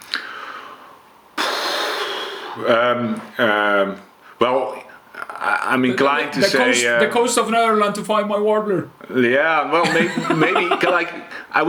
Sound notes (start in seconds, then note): 1.4 sighs; 9.8 laughs